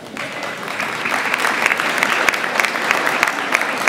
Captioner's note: audience applauds